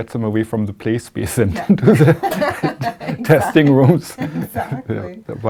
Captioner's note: laughter